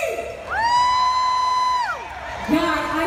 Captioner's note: crowd whoops